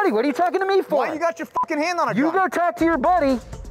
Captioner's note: beep